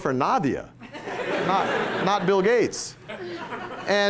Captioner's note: laughter